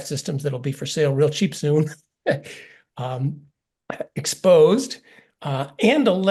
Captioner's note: laugh